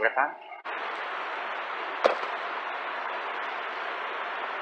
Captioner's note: thump